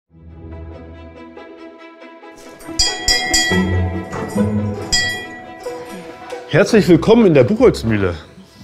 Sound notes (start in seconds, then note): 2.4 bells ringing